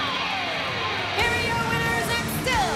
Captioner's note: bell ringing